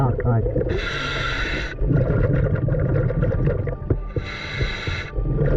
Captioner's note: deeply breathing